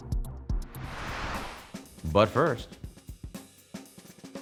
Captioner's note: logo whooshing